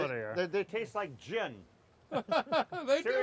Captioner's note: laughing